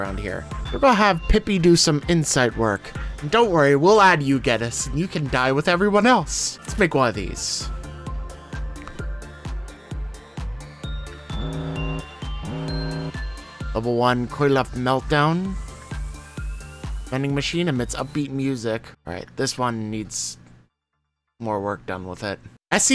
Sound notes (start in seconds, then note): 9.0 electronic music; 11.3 alarm sounds